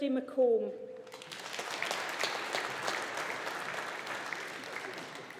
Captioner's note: audience applauding